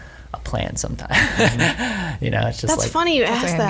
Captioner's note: laughs